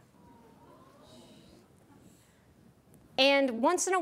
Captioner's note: audience oohs and awes